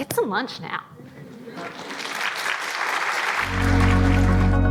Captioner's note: audience applauding; soft upbeat music